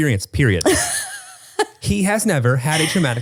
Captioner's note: laughs